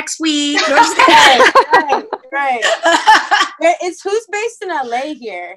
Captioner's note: laughter